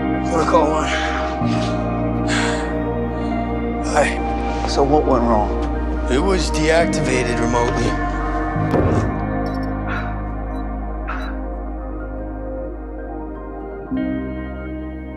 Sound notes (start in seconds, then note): 0.8 Trevor sighs; 11.0 Philip sighs